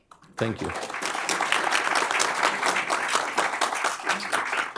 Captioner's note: applause